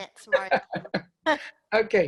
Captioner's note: laugh